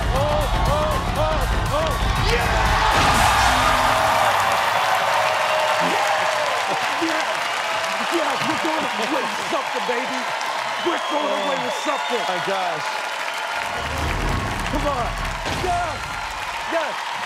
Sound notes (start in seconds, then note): 13.1 cheers and applause